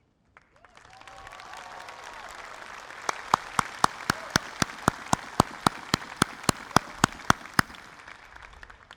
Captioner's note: applause